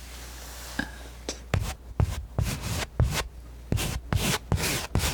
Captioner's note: scratching